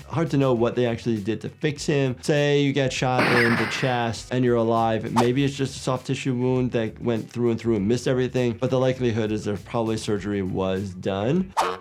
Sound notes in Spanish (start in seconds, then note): 3.2 disparos